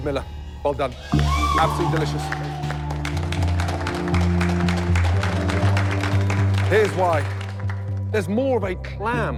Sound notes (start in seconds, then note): 3.6 cheers and applause